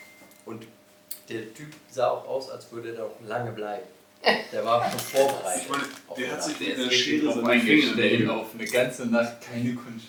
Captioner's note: drunken conversations